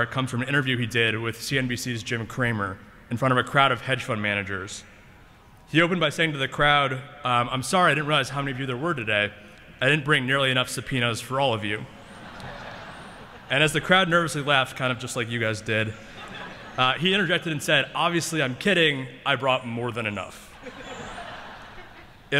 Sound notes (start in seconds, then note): 12.0 laughter